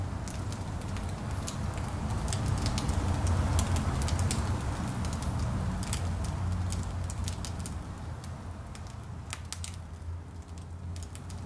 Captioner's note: fire crackling